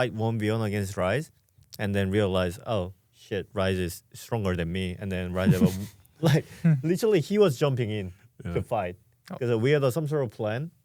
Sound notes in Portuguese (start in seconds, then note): 5.4 risos